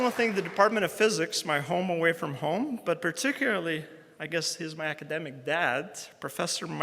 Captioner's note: round of applause